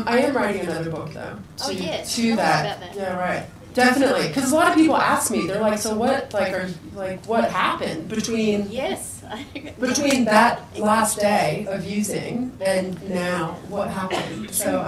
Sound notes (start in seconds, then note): 9.2 laughs